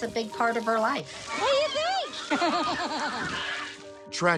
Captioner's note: laughs